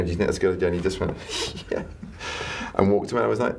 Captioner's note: laughs